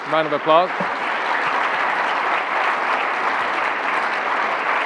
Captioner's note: applauding